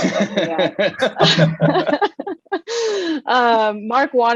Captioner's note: all Laughing